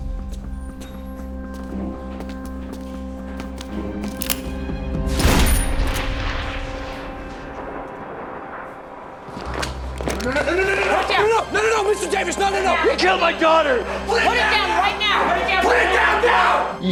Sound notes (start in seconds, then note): 5.1 gunshot